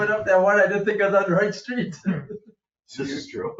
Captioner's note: laughs